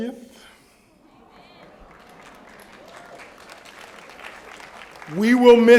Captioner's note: applause